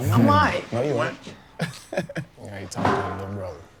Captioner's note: laughs